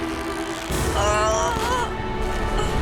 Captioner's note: groaning